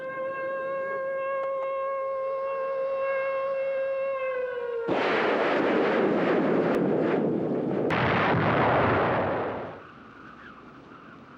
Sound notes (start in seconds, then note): 0.0 siren wailing; 4.9 missiles firing